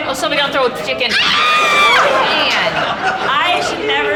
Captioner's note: woman screaming; audience laughing